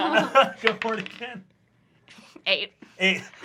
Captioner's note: laughs